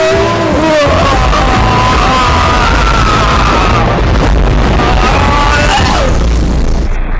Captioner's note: screams of agony